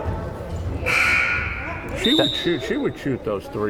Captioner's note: buzzer buzzing